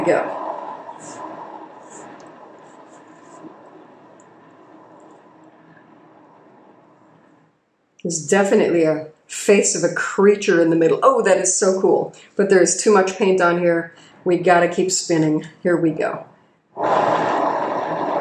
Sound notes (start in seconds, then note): 6.9 spinning sound